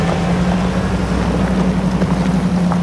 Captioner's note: engine rumbling